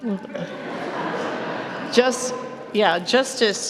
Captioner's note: laughter